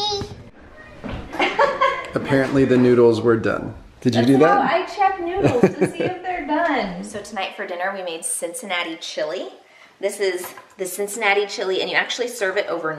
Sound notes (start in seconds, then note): 1.4 laughing